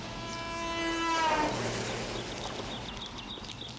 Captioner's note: car horn blaring